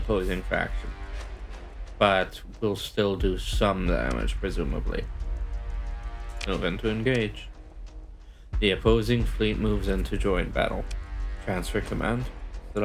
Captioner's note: dissolves into mumbling